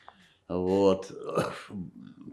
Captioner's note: coughing